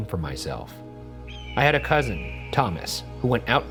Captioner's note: bird screeches